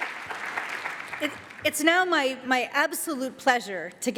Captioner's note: applause